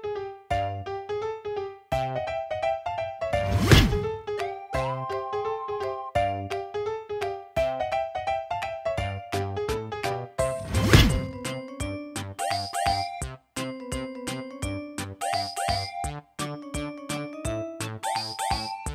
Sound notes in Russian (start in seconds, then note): 3.4 шлепок; 10.6 шлепок